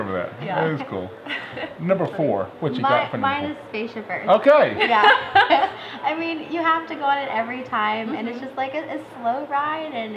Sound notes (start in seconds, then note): 4.8 laughter